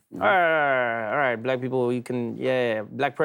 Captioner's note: blathers